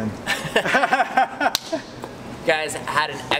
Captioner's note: laughter